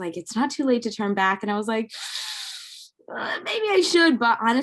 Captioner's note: hisses